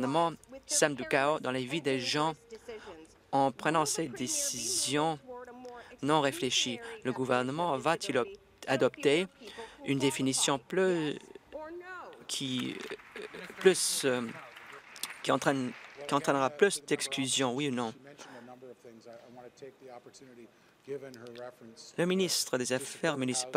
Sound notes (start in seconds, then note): 14.8 applause